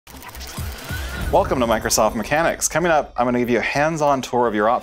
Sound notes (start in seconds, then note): 0.1 whirring